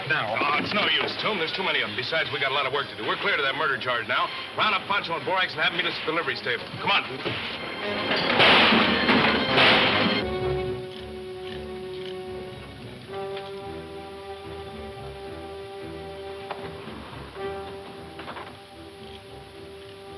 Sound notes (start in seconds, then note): 8.0 guns firing; 9.6 soft suspenseful music